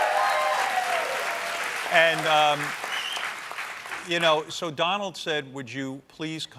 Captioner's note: applause